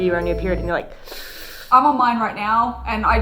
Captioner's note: inhales